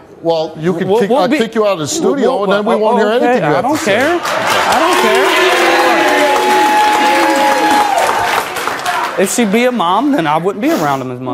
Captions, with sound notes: - Well, I'll kick you out of the studio and then we won't hear anything you have to say. (audience applause) - I don't care! If she'd be a Mom then I wouldn't be around them as much.